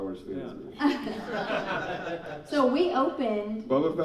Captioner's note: laughing